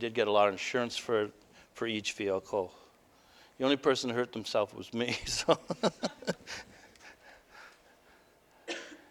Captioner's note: laughter